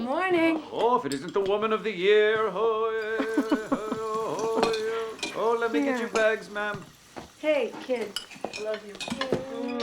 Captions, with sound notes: If it isn't the Woman of the Year! (CHANTING) (LAUGHING) Let me get your bags, ma'am! Hey, kids, I love you.